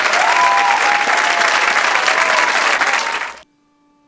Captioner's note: audience cheering